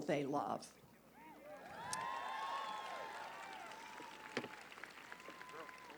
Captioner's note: applause